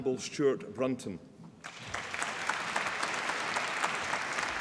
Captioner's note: applause